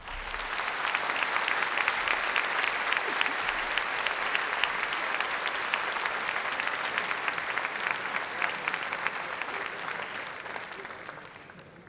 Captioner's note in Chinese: 掌声